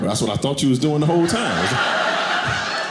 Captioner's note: audience laughing